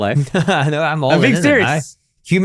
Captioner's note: laughing